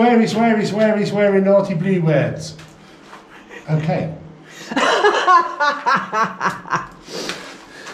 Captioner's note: laughter